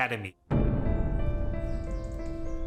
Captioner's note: birds chirping